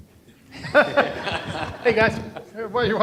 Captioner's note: laughing